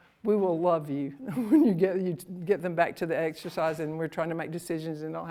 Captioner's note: laughs